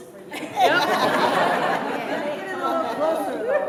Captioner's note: laughter